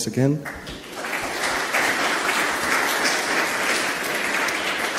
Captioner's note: audience applauds